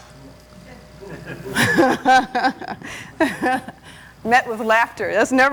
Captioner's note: audience laughing